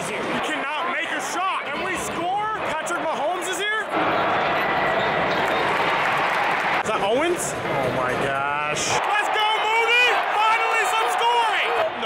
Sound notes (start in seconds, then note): 4.3 crowd noise; 5.3 crowd cheers